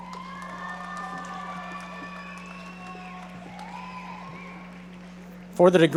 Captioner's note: audience members cheering and applauding